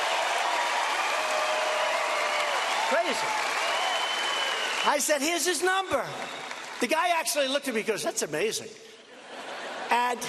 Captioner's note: cheers and applause